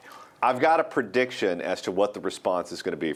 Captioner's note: voiceover